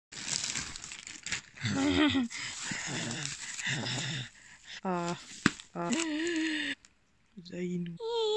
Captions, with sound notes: (rustling noise) (goblin noises) Uuuhh... uh ggAaASp うざいイヌ HIIIIhhh